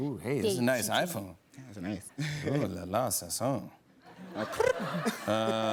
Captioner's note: laughs